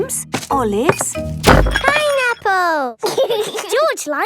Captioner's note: bangs; laughs